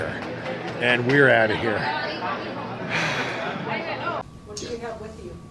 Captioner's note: sigh